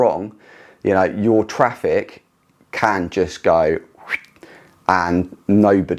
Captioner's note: whistling